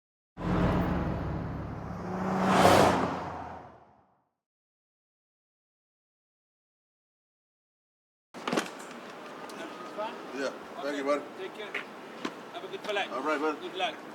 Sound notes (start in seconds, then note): 2.7 whoosh; 8.3 car door opens